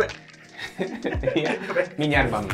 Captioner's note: laughing